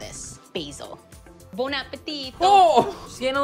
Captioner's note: italian accent